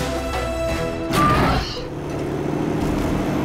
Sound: squawking

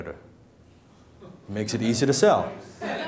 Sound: laughing

